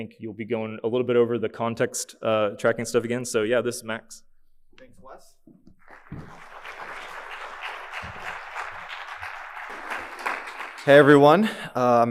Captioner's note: applause